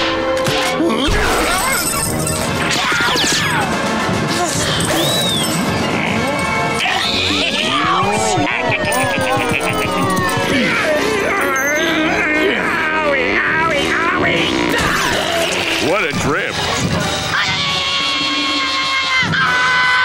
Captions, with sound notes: Huh? Yeowch! Yeowch! [laughing] [grunting, groaning] Owie, owie, owie. What a drip. Ai-yi-yi-yi-yi-yi-yi-yi! [screaming]